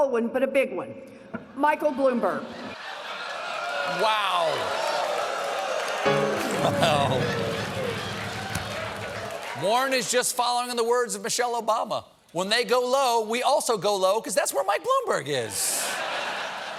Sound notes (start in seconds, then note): 5.8 audience reacts; 6.0 piano riff